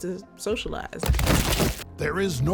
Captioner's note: bodies thudding